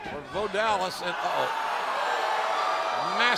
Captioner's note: crowd cheering